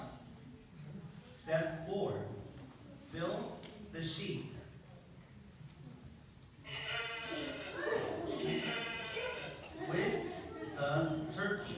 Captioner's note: sheep sound; turkey sound